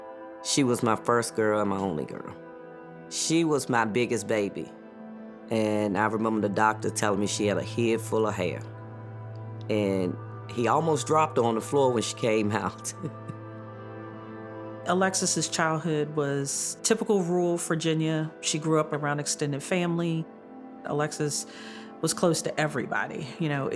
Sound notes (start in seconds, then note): 12.8 chuckles